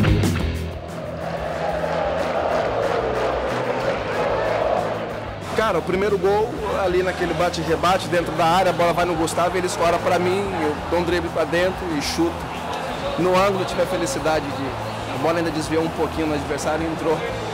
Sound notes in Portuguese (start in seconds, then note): 0.7 sons da torcida